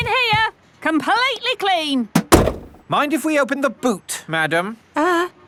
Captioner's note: none